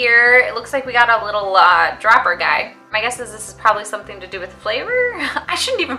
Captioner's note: laughs